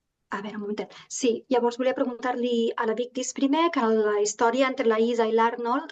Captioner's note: speaking in Catalan